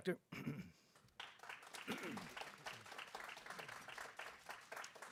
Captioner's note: group clapping